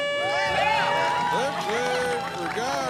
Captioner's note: horn beeping; cheering